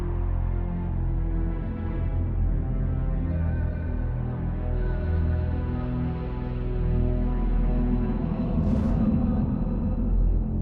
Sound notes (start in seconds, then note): 2.0 soft tense music continues; 7.4 air whooshing